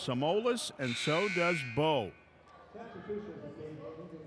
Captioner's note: buzzer buzzes